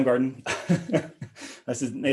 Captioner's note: laughing